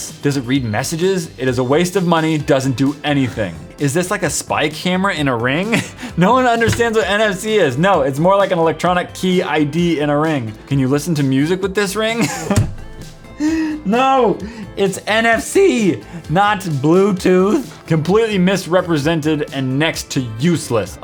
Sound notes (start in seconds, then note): 12.2 laugh; 13.2 inhale